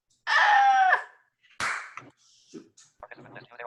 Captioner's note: screams